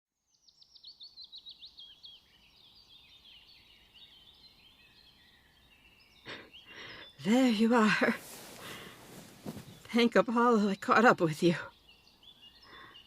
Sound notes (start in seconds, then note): 1.5 forest ambience, birds and animals